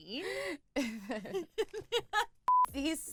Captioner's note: girls laughing